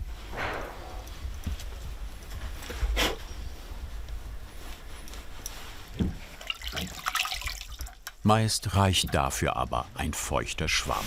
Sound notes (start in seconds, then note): 0.2 dull knocking; 2.6 he blows